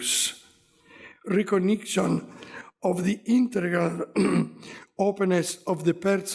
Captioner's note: clears throat